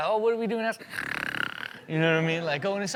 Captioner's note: snores